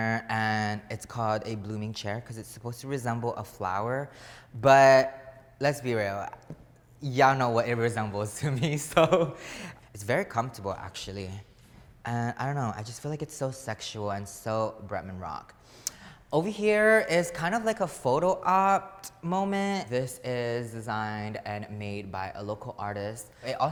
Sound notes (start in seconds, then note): 9.0 laughing